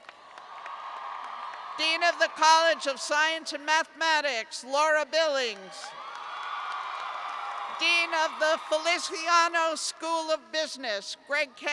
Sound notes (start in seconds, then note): 5.5 cheers